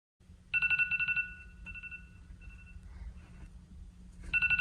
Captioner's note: phone alarm rings